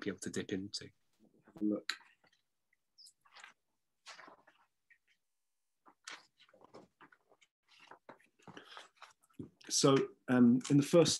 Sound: page turning

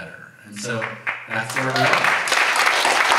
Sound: audience applauds

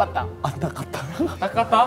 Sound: laughing

